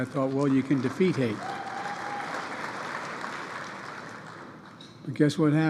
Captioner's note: applause